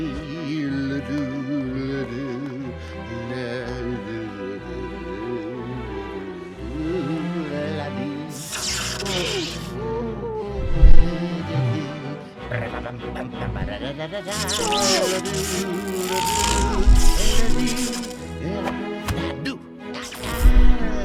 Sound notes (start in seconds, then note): 0.2 badass humming; 10.4 humming continues